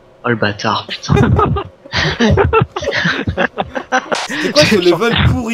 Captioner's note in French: Rire